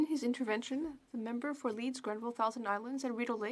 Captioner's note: speaking French